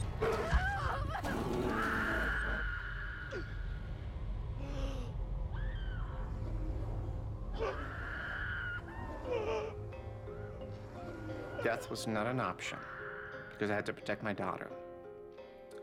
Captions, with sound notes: [ SCREAMING ] [ GASPS ] [ SCREAMING CONTINUES ] DEATH WAS NOT AN OPTION BECAUSE I HAD TO PROTECT MY DAUGHTER.